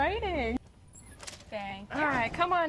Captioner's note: door squeaking